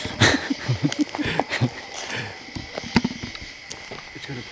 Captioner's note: person laughing